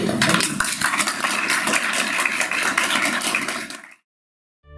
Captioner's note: audience applauds